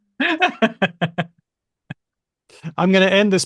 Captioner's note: laughs